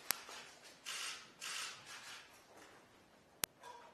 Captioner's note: camera shutters clicking